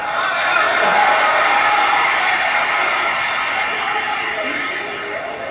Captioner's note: crowd roars